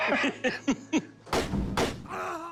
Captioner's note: laughing; gunshots; man grunting sound effect